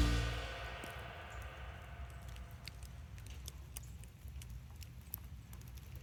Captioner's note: dripping wet snow noises